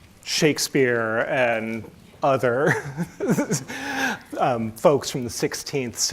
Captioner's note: chuckles